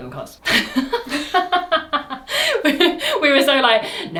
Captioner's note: laughs